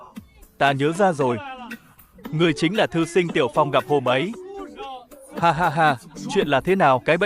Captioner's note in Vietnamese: tiếng cười